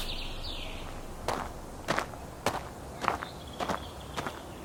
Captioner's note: gravel crunching